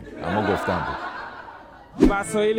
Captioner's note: laughter